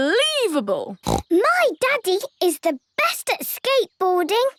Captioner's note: snorts